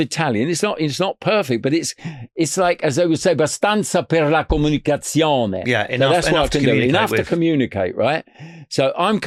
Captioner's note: speaking Italian